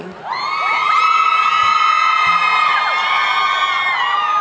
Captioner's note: audience cheering